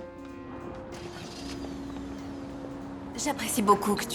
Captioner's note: car engine starts